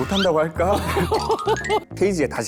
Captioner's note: laughing